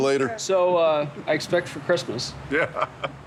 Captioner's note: laughs